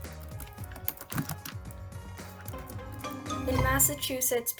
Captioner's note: upbeat music; keyboard clicking